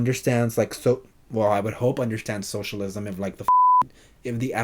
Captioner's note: beeps